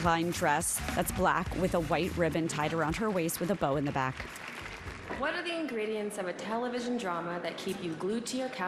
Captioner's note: applause